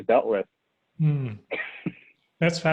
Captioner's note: laughing